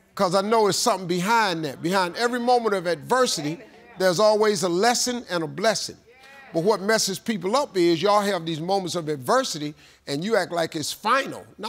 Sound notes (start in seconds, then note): 6.0 audience agreeing